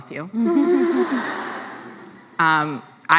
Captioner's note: laughs